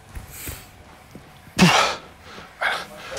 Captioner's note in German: Angestrengtes Stöhnen